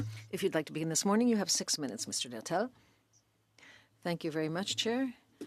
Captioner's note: speaking French